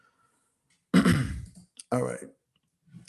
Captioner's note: throat clearing